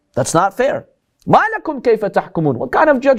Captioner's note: Arabic